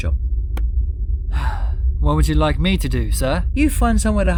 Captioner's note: sigh